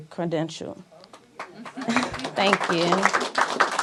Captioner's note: applause